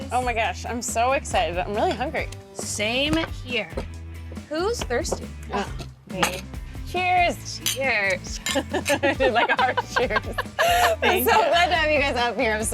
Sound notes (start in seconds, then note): 8.4 group laughing